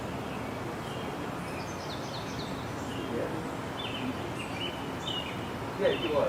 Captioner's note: birds chirping